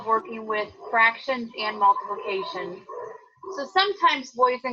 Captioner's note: dog barking